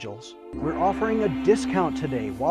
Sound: gong crashing

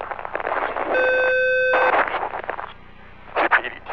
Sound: alarm

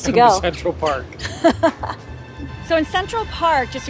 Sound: laughing

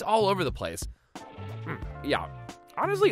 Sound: grunting

